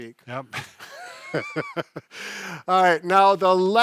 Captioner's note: both laughs